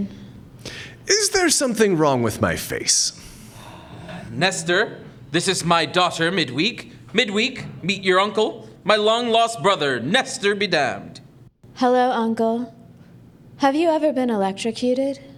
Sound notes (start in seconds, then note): 3.2 big contented sigh; 11.8 deadpan